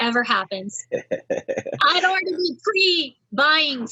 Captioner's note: laughs